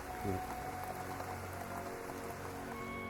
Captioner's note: heavy rain